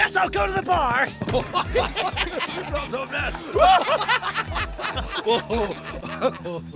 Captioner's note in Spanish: Los Banzai se ríen